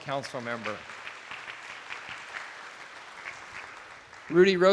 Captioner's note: attendees applauding